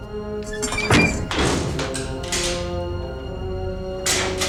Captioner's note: door unlocks